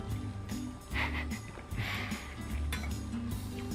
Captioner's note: giggles